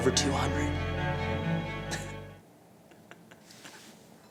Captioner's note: laughing